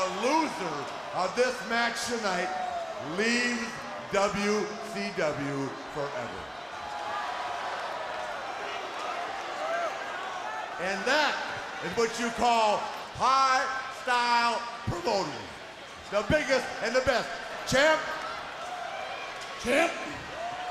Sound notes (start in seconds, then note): 13.6 crowd cheering; 14.2 crowd chatter